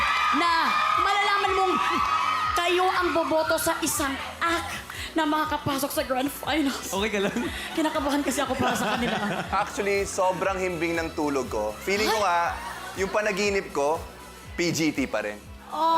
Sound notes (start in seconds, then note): 7.2 robi laughs